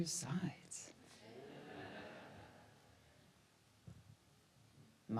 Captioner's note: audience laughs